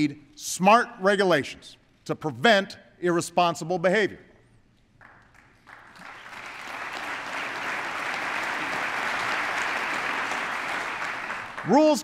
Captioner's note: applause